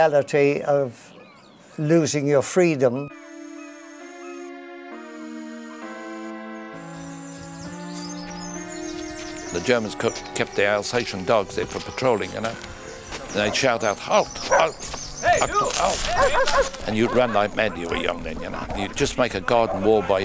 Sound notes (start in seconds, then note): 3.2 ominous music plays; 13.5 German shouts